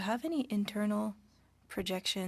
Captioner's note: speaking French